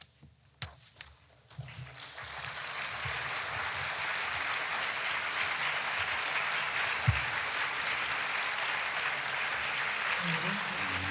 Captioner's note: applause